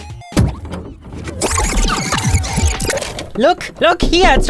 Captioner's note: distorted audio